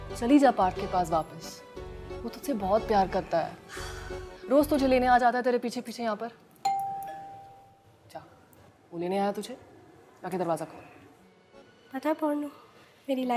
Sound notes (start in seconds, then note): 3.6 sighs; 6.6 doorbell rings